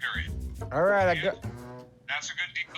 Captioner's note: on phone